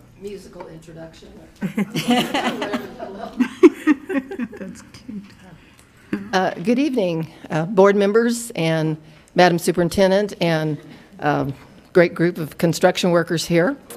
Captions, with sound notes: - Musical introduction there. (laughing) Good evening board members and madam superintendent, and a great group of construction workers here.